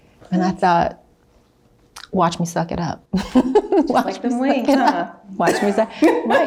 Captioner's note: chuckles; interviewer laughs